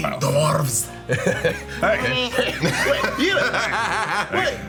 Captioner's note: group laughing